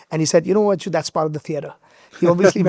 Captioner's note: laughs